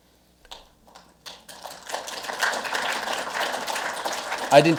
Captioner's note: audience clapping